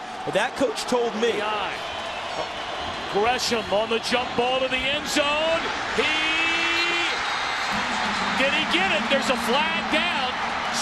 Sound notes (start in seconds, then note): 6.7 crowd cheering